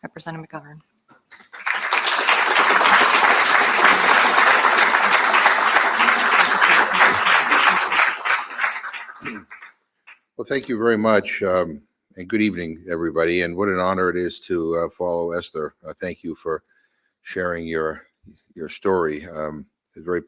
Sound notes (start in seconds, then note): 1.3 audience applauding